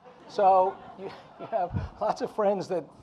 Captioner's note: audience laughing